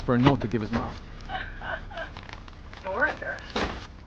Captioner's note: chuckles